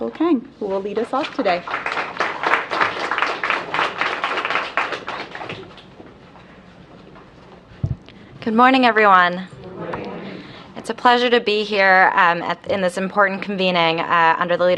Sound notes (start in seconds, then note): 1.4 applause